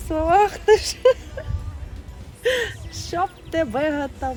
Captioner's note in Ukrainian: сміється